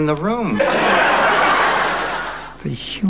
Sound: audience laughing

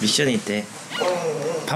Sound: whining

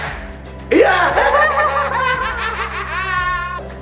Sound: laughing

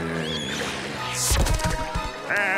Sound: groaning

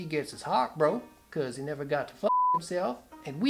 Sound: beep

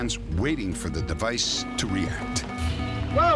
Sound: beeping

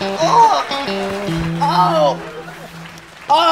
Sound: Gareth groans

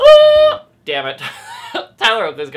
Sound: laughs

